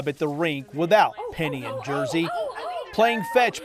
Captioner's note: onlookers exclaiming